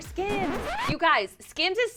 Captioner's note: record scratching